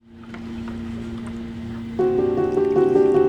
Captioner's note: machinery whirring